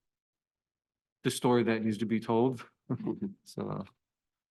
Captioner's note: chuckles